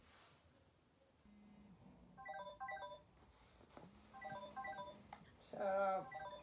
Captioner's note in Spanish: alarma